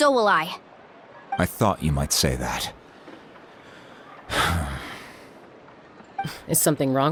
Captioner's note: sigh